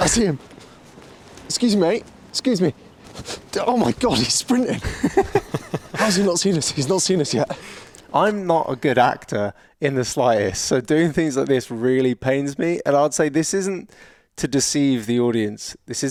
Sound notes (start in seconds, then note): 4.7 both chuckling